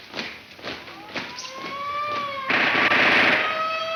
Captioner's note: siren wailing